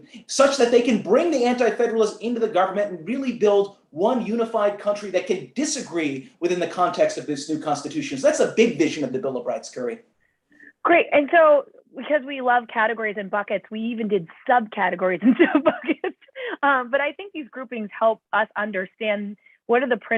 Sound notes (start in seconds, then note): 15.2 laughter